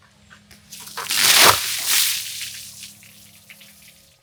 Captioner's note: water splashes